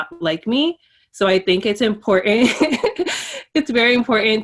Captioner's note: laughs